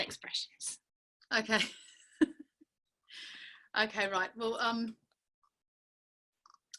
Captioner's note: laughing